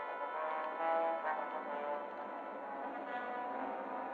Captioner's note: plane rumbling overhead